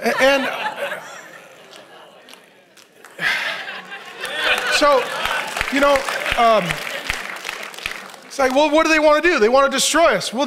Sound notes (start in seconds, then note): 0.0 congregation laughs; 4.7 congregation applauds